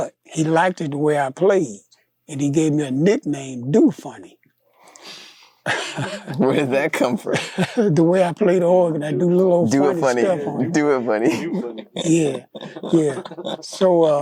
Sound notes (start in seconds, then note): 5.6 chuckles